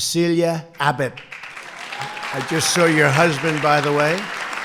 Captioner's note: applause